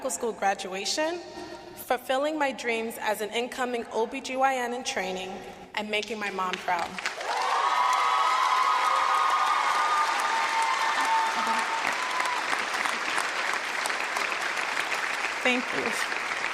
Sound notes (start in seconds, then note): 10.6 cheers and applause